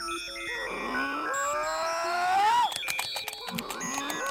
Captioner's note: Bigfoot screaming